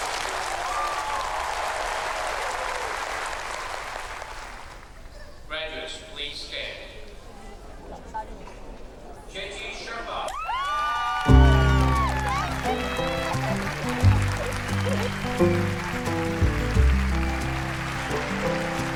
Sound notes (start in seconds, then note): 0.0 audience cheers; 0.0 audience applauds; 10.5 audience cheers; 11.7 audience applauds; 11.7 slow guitar music; 13.8 audience applauds; 13.8 slow guitar music